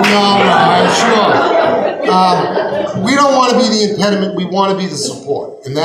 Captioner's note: laughing